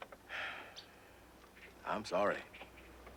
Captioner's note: Ben sighing